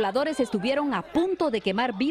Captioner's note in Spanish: gritan